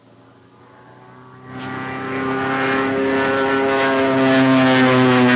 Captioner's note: airplane engine roaring